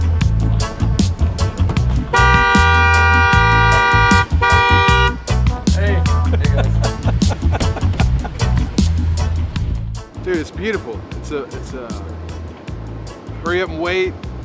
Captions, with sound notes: (car horn honking) - Hey. Hey guys. (laughing) - Dude, it's beautiful. It's hurry up and wait,